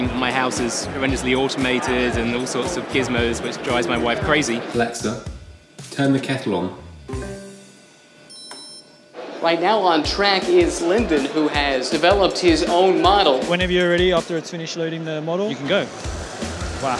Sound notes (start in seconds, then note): 4.9 robotic Voice; 8.2 electronic chiming